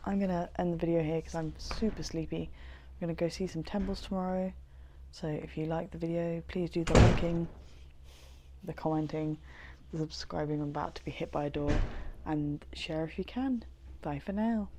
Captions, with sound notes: I'm gonna end the video here coz I'm super sleepy, we're gonna go see some temples tomorrow so if you like the video please do the liking. [Door slams] The commenting, the subscribing. I'm about to be hit by a door. And share if you can. Bye for now!